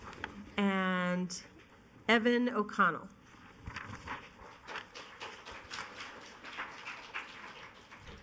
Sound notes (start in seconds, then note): 4.5 applause